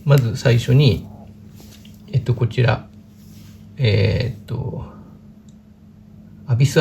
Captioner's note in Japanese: 咳払い